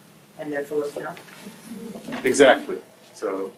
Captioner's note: group murmurs